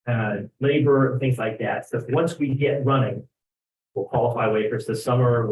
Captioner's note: speaks faintly